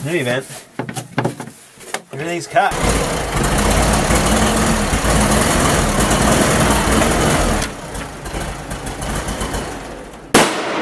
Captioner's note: tractor running poorly; tractor stalls and backfires loudly